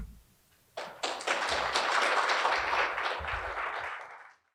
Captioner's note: applause